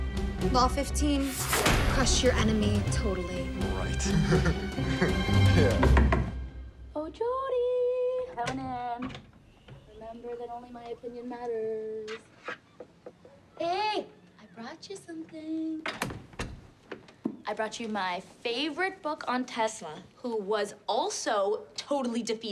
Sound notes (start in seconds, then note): 4.0 chuckles; 5.7 knocking